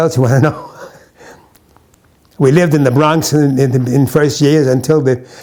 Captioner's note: chuckles